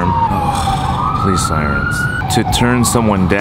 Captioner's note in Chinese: 噢 警車聲